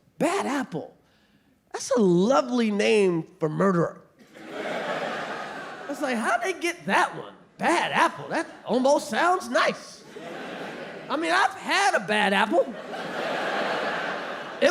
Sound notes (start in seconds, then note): 4.2 audience laughing; 9.2 audience laughing